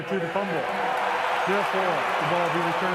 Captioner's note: cheering